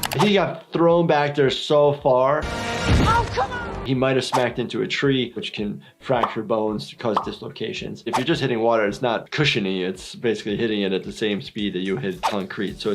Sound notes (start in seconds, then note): none